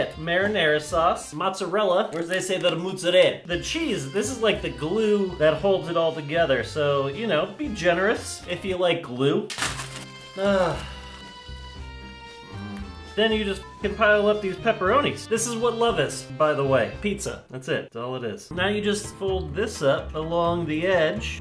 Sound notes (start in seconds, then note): 10.3 sigh